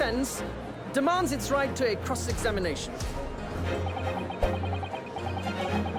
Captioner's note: beeping